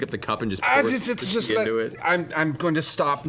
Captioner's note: alarmed stuttering